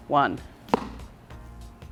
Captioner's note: ball hits floor